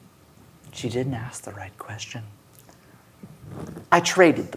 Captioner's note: none